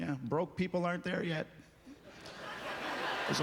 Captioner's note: audience laughter